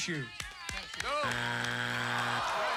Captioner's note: buzzer